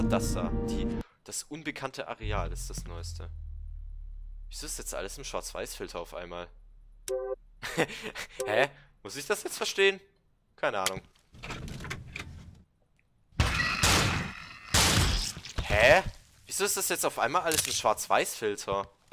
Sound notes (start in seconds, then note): 7.6 giggles; 11.7 door opens; 13.4 2 Glock Shots